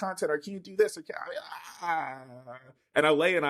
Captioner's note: groans